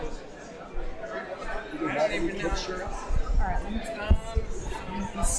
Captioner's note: audience faintly talking